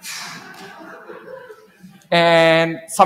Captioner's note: laughter